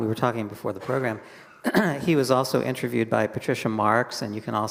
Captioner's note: clears throat